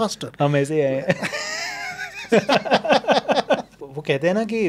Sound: both laughing

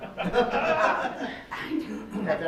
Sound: laughing

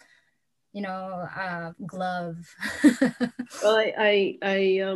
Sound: laughs

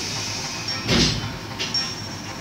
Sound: door slam

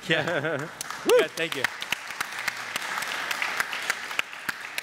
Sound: audience applaud

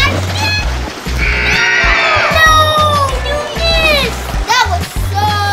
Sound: buzzer

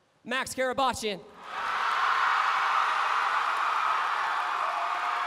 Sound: cheering

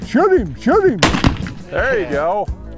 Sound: gunshot

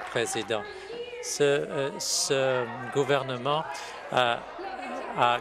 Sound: applause

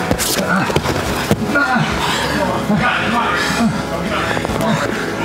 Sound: grunting and panting

